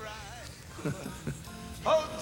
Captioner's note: chuckles